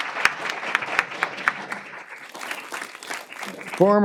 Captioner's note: applause